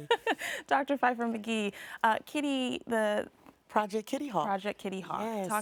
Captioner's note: laughs